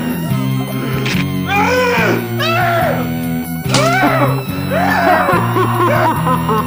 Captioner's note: monster wailing; arm rips; laughs maniacally